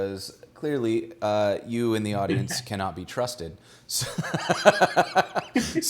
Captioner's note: laughs